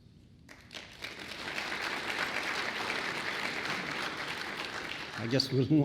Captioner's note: applause